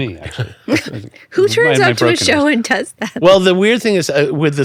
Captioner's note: laughs